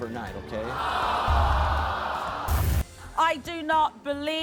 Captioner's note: crowd jeering